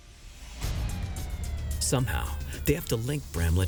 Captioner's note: police sirens wailing